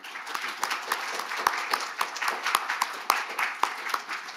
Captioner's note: audience applauding